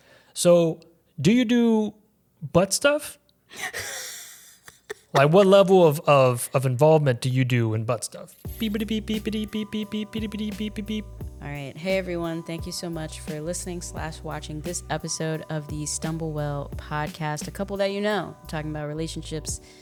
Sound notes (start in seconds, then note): 3.5 wheezes; 8.6 beeping